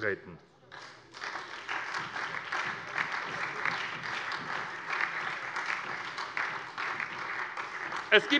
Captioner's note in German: Beifall